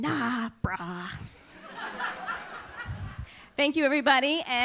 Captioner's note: laughs